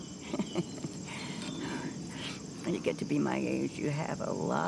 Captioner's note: laughs